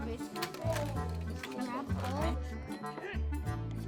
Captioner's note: kids talking